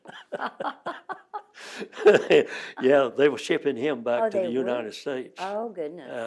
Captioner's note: laugher